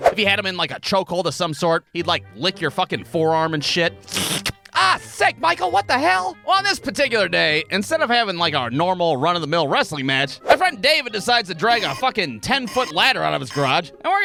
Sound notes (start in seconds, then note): 4.1 shlick!